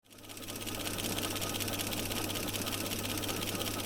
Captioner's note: film reel clicking